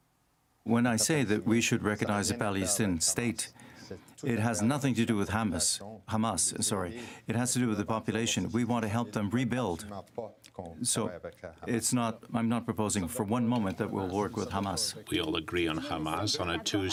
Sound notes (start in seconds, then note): 6.9 speaking french